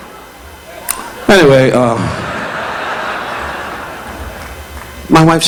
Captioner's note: audience laughing